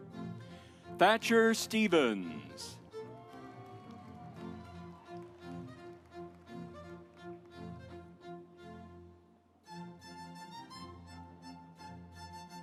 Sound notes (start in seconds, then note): 2.8 audience applauds; 3.7 stately music